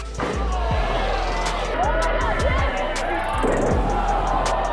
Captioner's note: crowd cheering